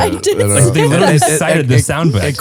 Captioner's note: laughing